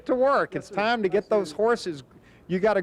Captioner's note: laughing